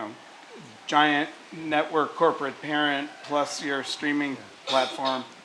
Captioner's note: cough